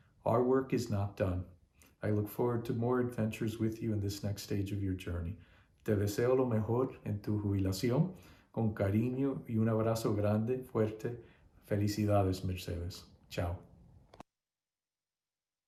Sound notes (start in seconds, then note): 5.8 speaking spanish